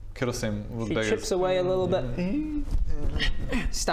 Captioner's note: ungrateful wimpy noises